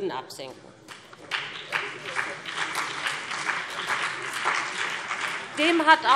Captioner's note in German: Beifall BÜNDNIS 90/DIE GRÜNEN und CDU